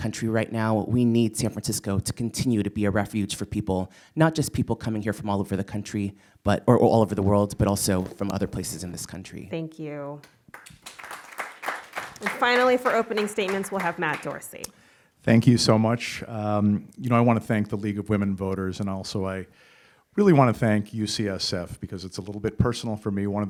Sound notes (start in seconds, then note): 15.0 applause